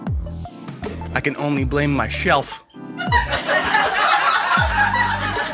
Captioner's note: laughing